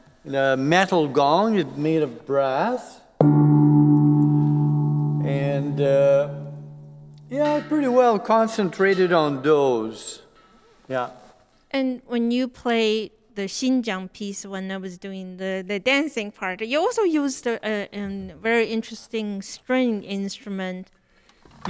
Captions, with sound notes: a metal gong, made of brass. (gong vibrates) And yeah, pretty well concentrated on those. Yeah. - And when you play the Xin Jiang piece when I was doing the dancing part, you also use an very interesting string instrument.